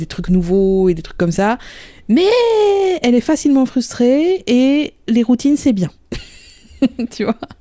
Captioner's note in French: rire